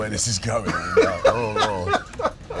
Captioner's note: laughter